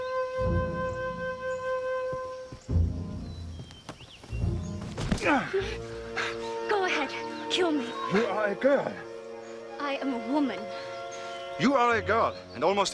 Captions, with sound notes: - (grunts) - Go ahead. Kill me. - You are a girl. - I am a woman. - You are a girl and almost a dead one.